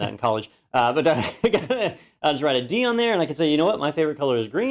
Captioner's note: laugh